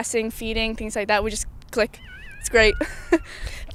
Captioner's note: laughs